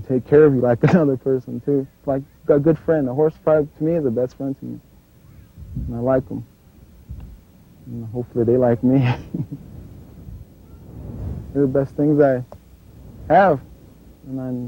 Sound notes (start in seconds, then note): 8.7 laughs